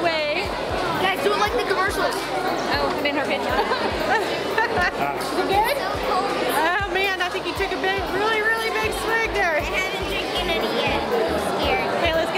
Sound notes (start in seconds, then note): 3.4 laughing